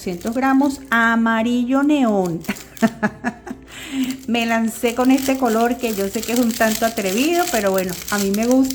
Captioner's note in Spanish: risas